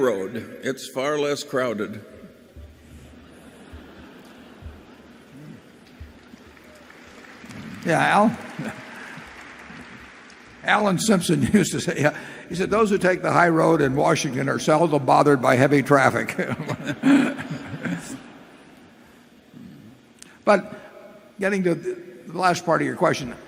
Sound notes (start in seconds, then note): 2.9 laughter and applause; 16.3 laughter